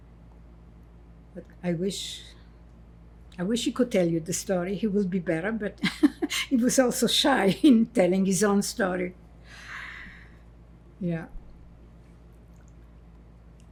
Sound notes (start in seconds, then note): 5.8 laughing